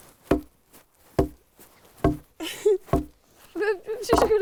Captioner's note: log thumping